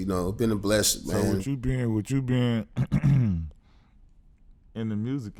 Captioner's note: clears throat